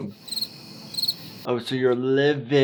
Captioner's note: cricket chirping